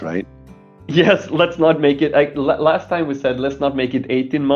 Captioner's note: laughing